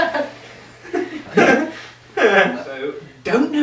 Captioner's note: awkward chuckle